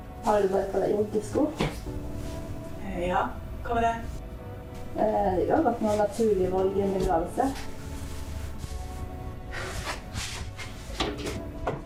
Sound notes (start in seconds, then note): 9.5 sighs